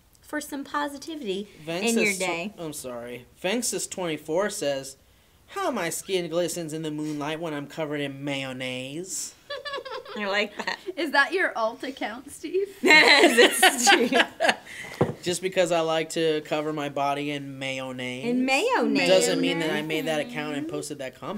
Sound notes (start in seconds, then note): 9.5 snickers; 12.8 laughter